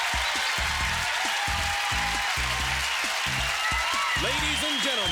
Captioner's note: cheers and applause